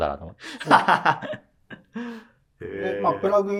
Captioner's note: laughing